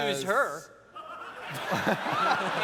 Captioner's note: laughter